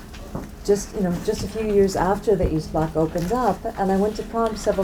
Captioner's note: foreign language